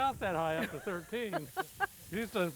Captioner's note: laughing